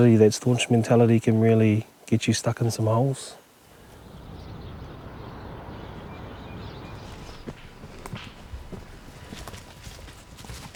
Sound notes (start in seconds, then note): 2.6 birds chirping